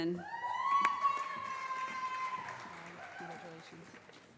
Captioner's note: calling Graduate Names